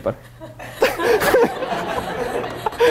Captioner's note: laughter